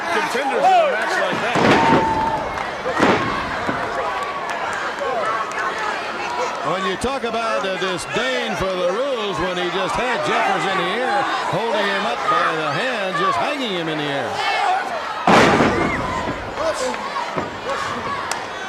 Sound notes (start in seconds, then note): 4.8 crowd chatter; 16.5 crowd chatter